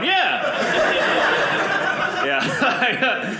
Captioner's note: audience laughing